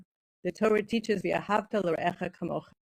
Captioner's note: speaking in foreign language